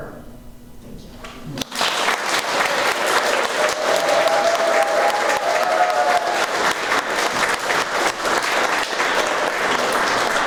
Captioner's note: applause